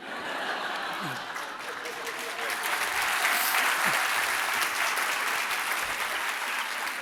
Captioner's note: laughter; applause